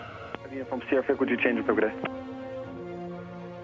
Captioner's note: radio transmission